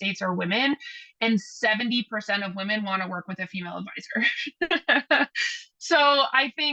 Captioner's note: laughs